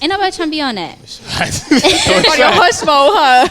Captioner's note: laughter